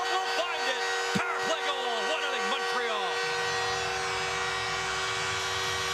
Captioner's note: horn